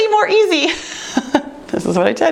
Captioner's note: laughs